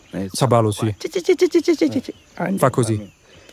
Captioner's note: bird sound